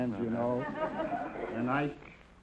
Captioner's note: audience laughter